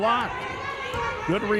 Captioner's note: cheering